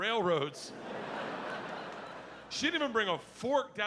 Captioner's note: audience laughing